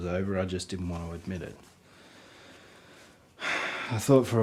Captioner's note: sighs